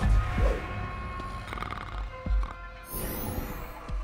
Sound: snoring

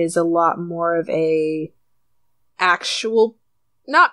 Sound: none

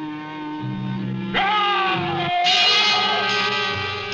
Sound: dramatic instrumental music; yelling

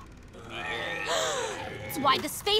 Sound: gasping

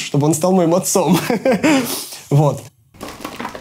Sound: laughs

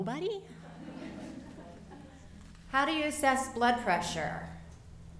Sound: laughter

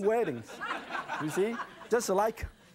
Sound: audience laughing

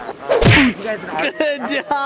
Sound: thumping sound

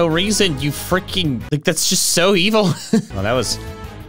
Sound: chuckles

